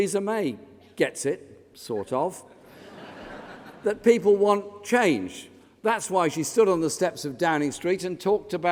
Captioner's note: laughter